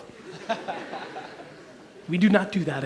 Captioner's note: audience laughs